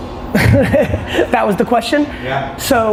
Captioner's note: laughs